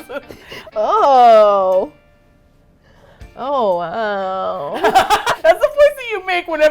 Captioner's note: laughing; unenthusiastically; both laugh